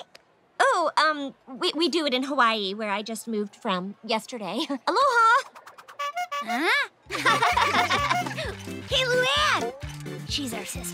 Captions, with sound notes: Oh, um. We do it in Hawaii, where I just moved from, yesterday. Aloha. [honking] [laughing] Hey, Luan! She's our sister.